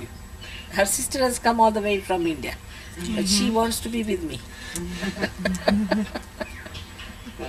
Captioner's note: shree mataji laughs